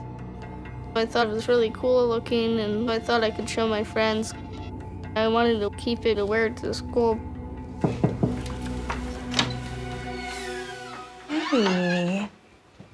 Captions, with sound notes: I thought it was really cool-looking, and I thought I could show my friends. I wanted to keep it and wear it to school. (knocks on door) (door opening) - Hey.